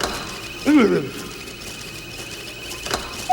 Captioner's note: machine turns on; Muppet mutters in surprise